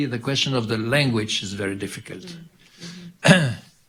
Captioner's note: clears throat